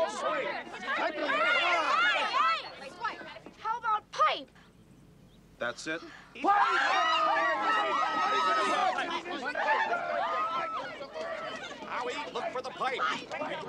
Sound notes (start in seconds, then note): 7.4 all shouting